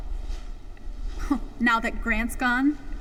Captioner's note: Vanessa scoffs